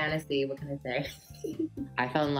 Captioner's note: laughs